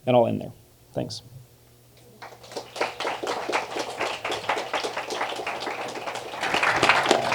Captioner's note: applause